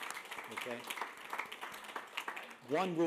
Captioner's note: applause